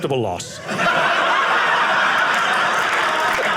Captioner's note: audience laughing